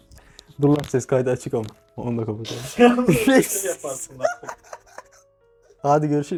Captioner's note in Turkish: kahkaha